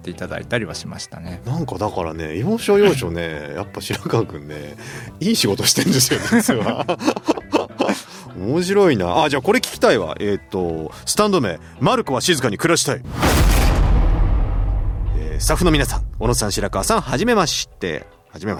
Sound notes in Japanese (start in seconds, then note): 7.3 笑い